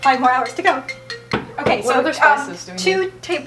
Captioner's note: phone rings